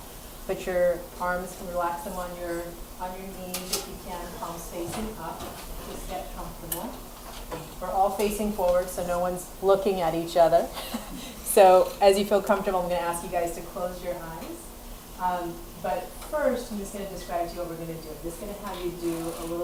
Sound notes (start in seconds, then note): 10.8 laughs